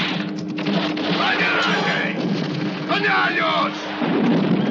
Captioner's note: yelling in Spanish